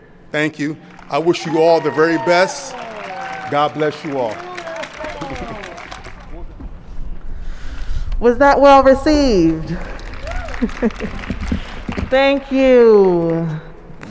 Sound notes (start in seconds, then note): 4.3 applause & cheers; 9.7 applause & cheers